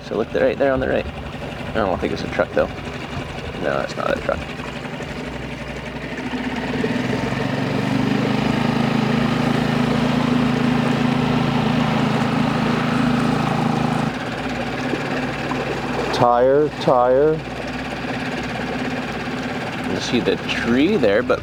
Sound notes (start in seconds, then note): 5.2 engine rumbling